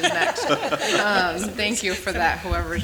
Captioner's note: laughing